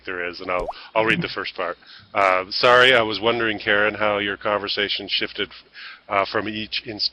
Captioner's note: reading text aloud